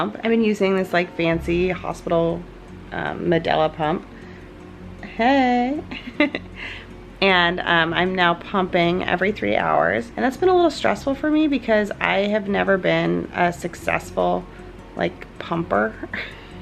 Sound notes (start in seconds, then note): 5.9 laughs